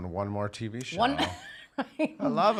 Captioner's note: laughing